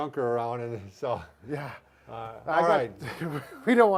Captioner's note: laughing